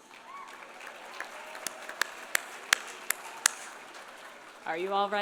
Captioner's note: audience applauding; audience cheering